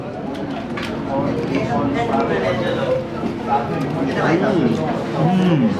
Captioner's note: smacking and chewing